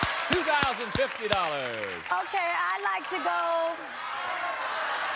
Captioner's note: applause